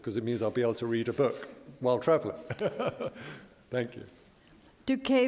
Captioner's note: laughter